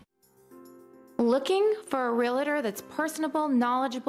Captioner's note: voiceover